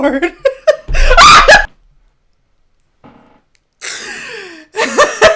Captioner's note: chuckling; shrieks; laughing